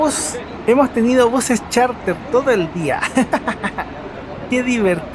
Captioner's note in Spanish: risas